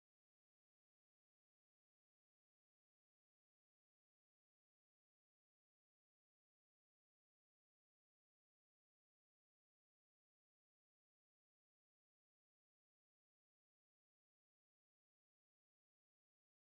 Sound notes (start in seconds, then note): none